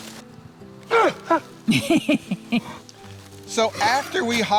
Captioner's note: dog barking; chuckles